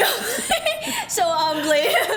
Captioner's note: laughs